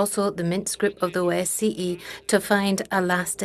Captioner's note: speaking French